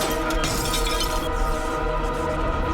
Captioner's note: crackling